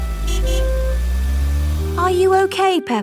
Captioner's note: horn honks